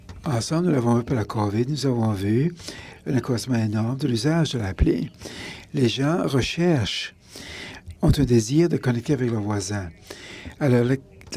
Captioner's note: speaking in French